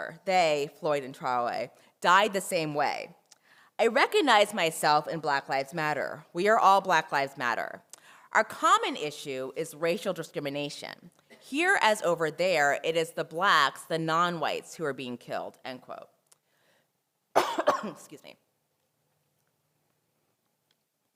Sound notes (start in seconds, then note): 17.3 cough